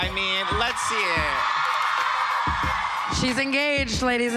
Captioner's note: crowd cheering